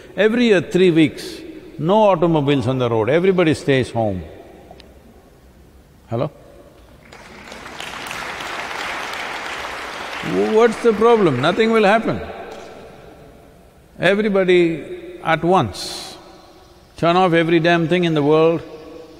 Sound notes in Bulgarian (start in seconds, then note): 7.0 Ръкопляскания